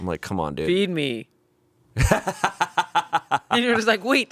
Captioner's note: laughing